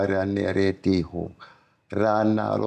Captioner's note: non-english speech